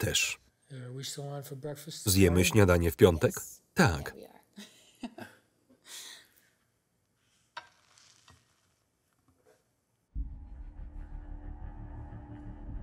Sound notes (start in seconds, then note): 4.3 laughs; 10.2 ominous music